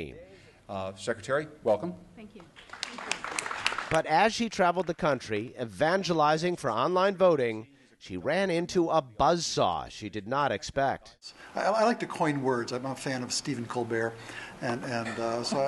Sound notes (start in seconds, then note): 2.5 applause